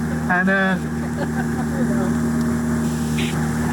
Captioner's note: laughter